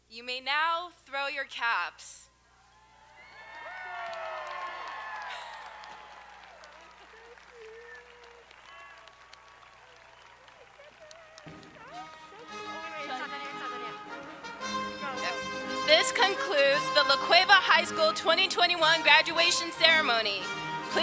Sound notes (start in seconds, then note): 2.7 audience applauding; 2.7 audience cheering